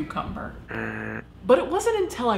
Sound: electronic buzzing

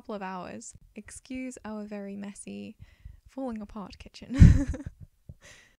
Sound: laughs

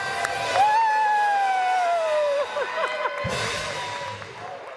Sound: cheers

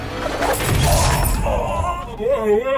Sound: Mad Santa Screams

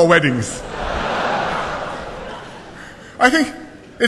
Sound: laughter

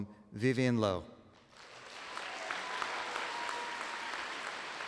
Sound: applause

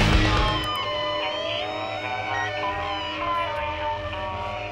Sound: mouse clicking

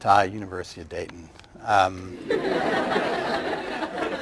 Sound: laughter

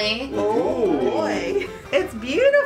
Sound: oohing

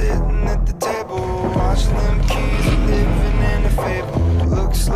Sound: engine rumbling

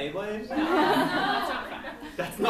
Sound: laughs

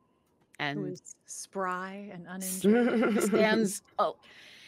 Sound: laughs

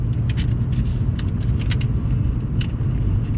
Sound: money shuffling

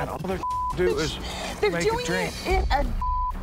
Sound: beep

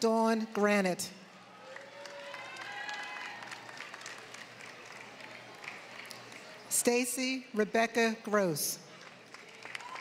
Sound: applause; applause

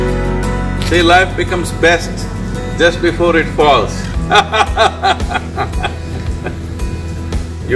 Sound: laughs

